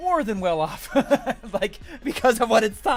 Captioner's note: laughs